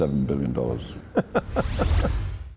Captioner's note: laughing